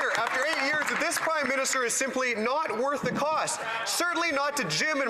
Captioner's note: some Applause